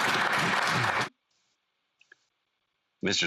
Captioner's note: some Applause